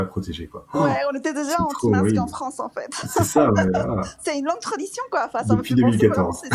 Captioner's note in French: rires